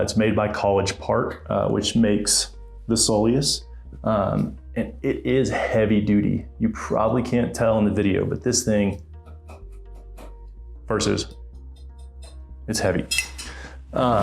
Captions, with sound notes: It's made by College Park, which makes the Soleus, and it is heavy duty. You probably can't tell in the video, but this thing, (shoe horn thumping) versus, (shoe horn tapping) It's heavy.